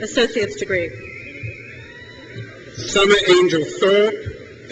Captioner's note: crowd cheers